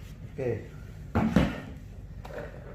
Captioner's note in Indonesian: suara penutup ditaruh